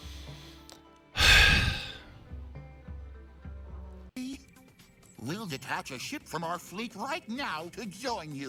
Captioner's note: sigh